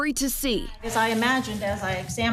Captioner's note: nats from court